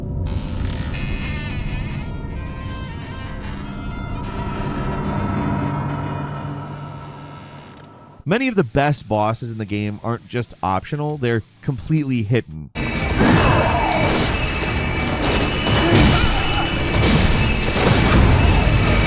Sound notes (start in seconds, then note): 0.0 door creaking; 8.4 upbeat ambient music; 12.8 intense ambient music; 12.9 monster growls; 15.2 loud thumping